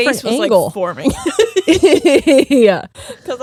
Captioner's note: both laughing